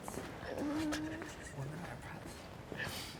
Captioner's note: laughs